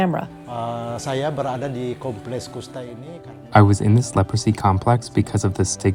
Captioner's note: speaking in Bahasa Indonesia